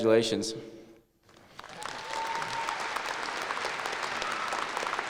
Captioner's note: applause and cheering